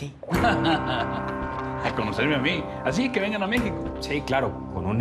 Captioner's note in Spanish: risas